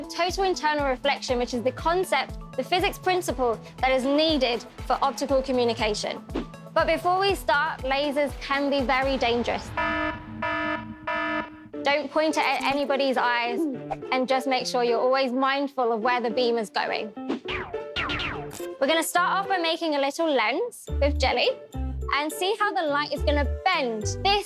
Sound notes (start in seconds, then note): 11.8 alarm sounding; 18.0 lasers shooting